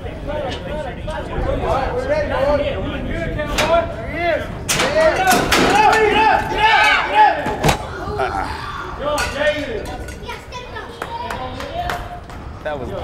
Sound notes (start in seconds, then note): 1.5 men yelling; 4.8 men yelling; 10.9 clapping